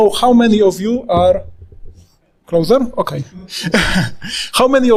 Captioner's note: laughing